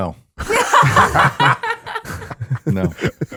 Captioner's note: all laughing